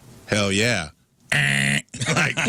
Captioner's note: buzzer